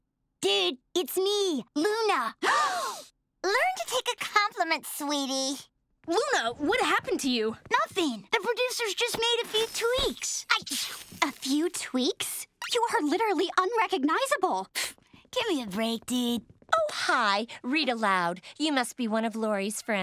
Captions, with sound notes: Dude, it's me, Luna. [gasping] Learn to take a compliment, sweetie. Luna, what happened to you? Nothing. The producers just made a few tweaks. [sneezing] A few tweaks? You are literally unrecognizable. [scoffs] Give me break, dude. Oh, hi. Rita Loud. You must be one of Lori's friends.